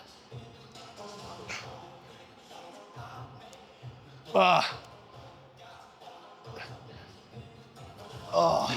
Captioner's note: grunting